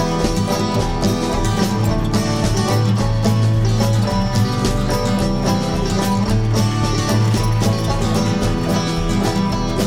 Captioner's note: sounds of wagon wheels sqeaking